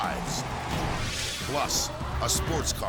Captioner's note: graphic swishes